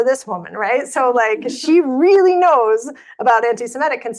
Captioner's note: audience laughing